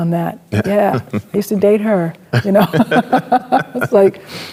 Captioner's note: both laughing